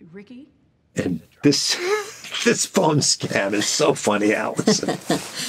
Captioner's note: laughs